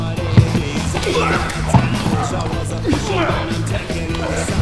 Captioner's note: man grunts